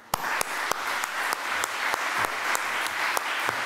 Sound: applause

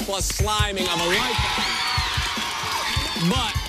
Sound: cheers and applause

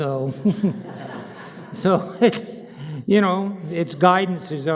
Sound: panel laughing

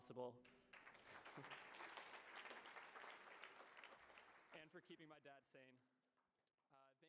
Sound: applause

